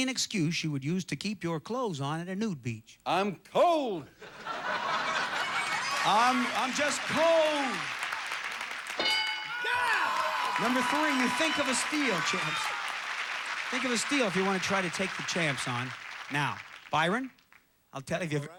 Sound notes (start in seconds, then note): 4.2 audience laughing; 10.1 audience applauding